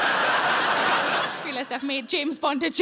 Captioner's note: audience laughs